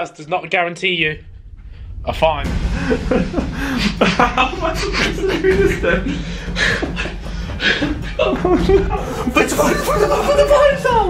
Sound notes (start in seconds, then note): 4.8 laughing